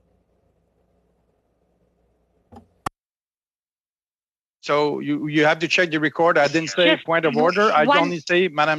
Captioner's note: speaking French